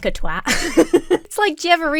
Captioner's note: laughs